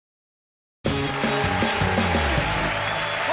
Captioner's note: cheers and applause